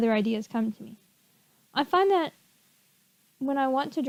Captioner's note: awkward pause